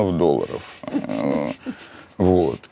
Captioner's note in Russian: сдержанно смеётся